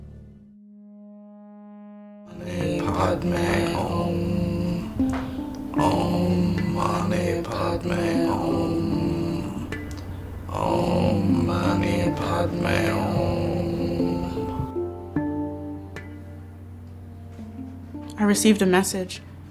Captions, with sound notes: (people chanting in foreign language) - I received a message.